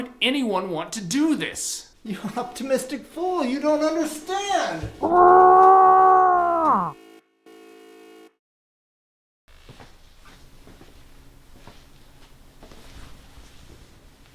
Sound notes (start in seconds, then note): 6.9 beeping; 9.6 footsteps